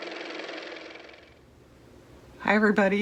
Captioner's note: car motor